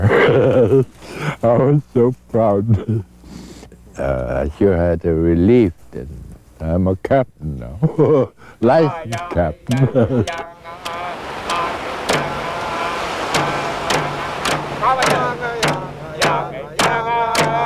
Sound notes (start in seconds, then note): 9.7 waves rolling; 13.1 chanting and drums